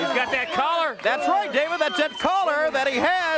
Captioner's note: crowd cheering